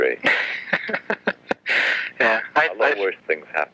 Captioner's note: laughs